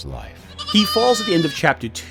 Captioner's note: sheep bleating